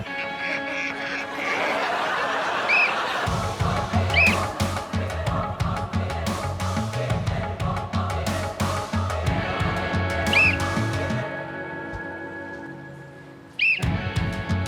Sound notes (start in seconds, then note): 0.2 blows whistle; 1.9 ducks quacking; 2.7 blows whistle; 4.9 blows whistle